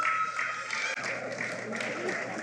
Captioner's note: cheering